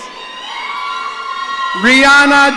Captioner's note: audience cheering